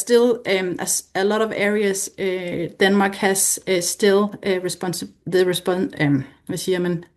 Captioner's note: foreign language